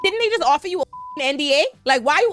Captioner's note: beep